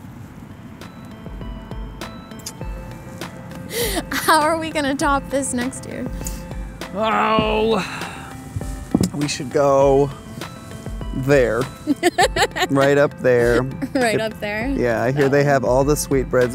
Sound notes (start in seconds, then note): 11.8 laughing